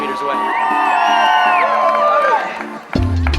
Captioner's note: audience cheering and applauding; dramatic music